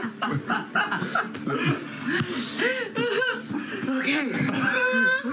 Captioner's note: laughter